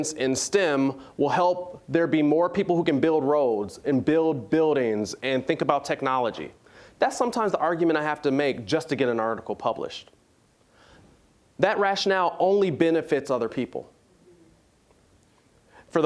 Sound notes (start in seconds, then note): none